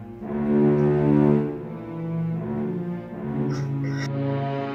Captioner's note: cries like a baby